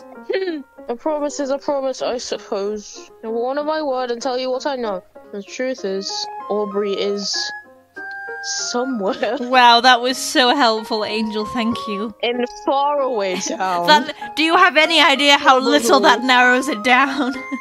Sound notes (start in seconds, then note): 9.0 laugh; 10.1 sarcastically; 17.0 laughs